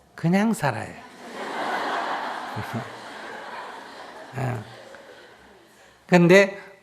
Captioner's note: audience Laughter